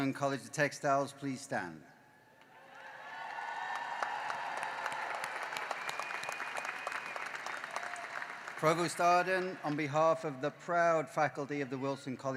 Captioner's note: cheering and applause